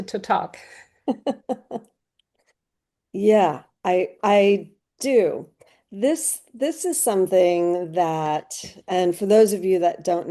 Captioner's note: chuckles